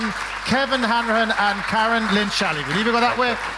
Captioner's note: audience clapping